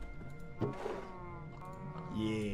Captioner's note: in Spanish; barrel opens